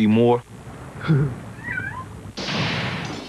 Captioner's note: cat meows